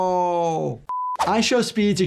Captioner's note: signal beeps